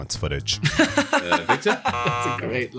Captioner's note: laughs; buzzer